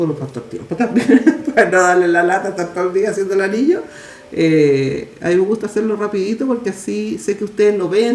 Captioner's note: laughs